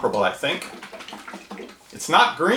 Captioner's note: liquid sloshing